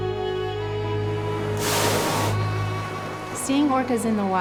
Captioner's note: somber orchestral music; spouting